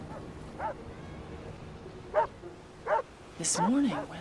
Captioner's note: dog barks